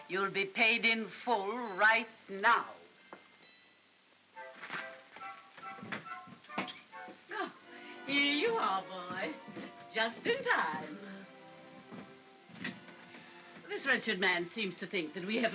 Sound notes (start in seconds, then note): 4.4 soft upbeat music; 12.6 door closes